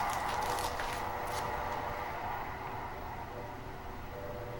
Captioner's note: paper crackles